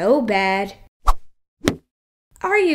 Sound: smack!

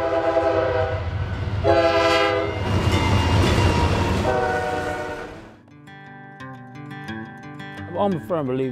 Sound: train whistle

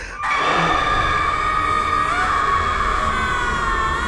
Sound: woman gasping; banshee shrieking

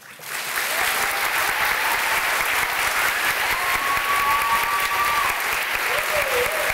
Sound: cheering

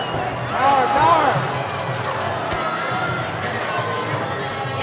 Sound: ominous music; audience cheering

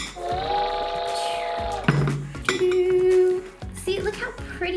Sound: train whistling

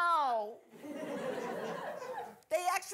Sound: audience laughing

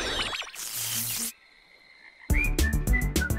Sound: electricity crackles

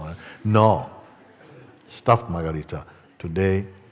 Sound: laughter

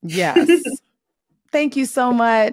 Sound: laughs

